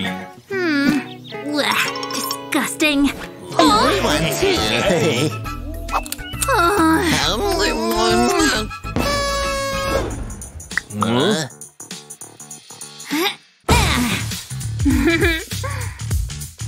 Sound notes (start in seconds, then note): 3.4 making excited sounds